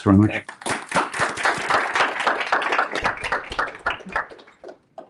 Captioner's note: applause